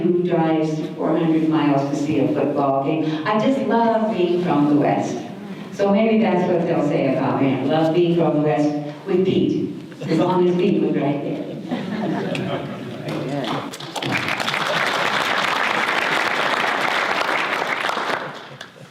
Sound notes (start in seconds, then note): 11.4 audience laughter; 13.4 audience applause